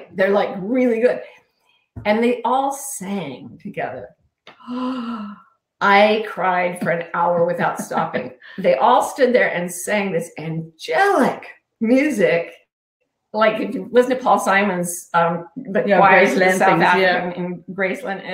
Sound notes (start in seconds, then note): 4.6 sighing